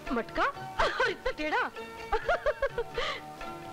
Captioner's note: Laughs